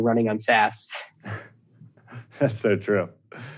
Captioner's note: both chuckle